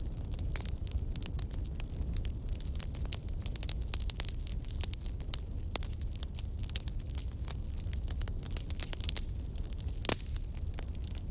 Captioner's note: campfire Sounds